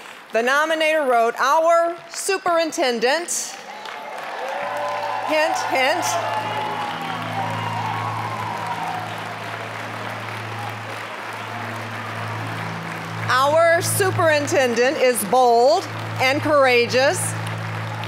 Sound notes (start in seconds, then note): 3.8 applause, cheering